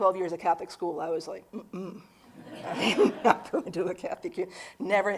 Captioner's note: audience laughing